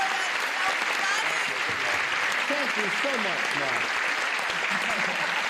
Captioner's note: applause and laughter